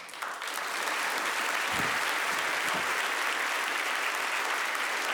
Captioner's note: audience applauding